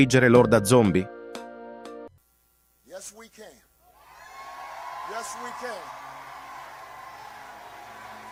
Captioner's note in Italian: Applauso